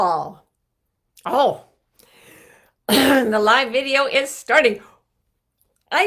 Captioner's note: throat clearing